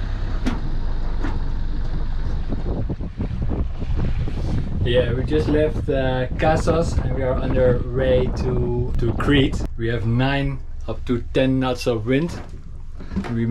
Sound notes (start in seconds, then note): 2.5 wind blowing